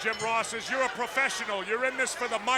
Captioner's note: bell rings